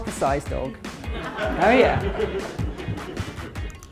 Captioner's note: audience laughs